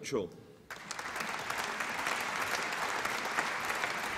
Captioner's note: applause